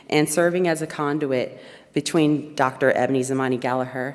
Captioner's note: none